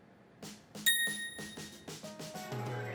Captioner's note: phone dinging; upbeat music